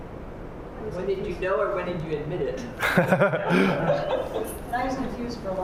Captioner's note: audience response